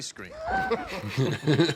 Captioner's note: laughs